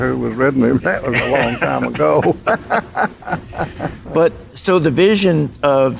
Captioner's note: laughs